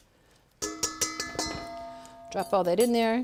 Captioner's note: bowl rings as she strikes it